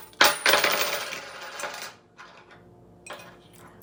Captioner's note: coins jingling